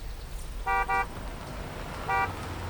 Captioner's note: horn honks